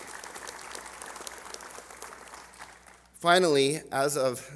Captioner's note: applause